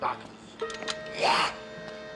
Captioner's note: gnarls